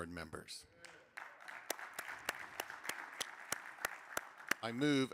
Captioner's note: crowd applauding